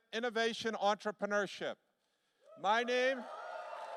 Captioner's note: applause